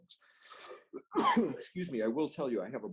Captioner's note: coughs